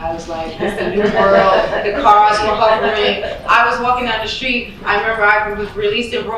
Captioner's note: talking over laughter